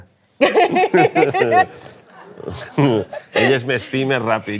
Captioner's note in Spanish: risas